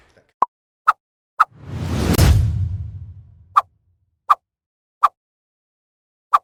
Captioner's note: graphic popping; graphic whooshing